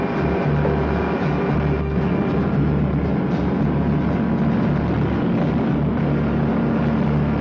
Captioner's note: engine whirring; suspenseful music; engine whirring; suspenseful music; engine whirring; suspenseful music